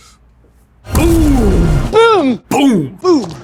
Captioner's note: loud explosion